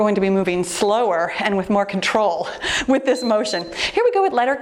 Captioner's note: timer beeps